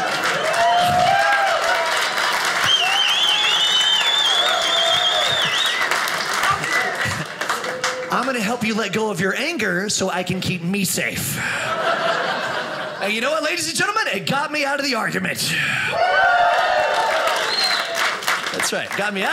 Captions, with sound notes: (audience applauding) I'm gonna help you let go of your anger so I can keep me safe. You know what ladies and gentlemen, it got me out of the argument. (audience cheers) That's right,